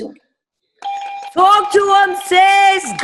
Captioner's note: button beeping; clapping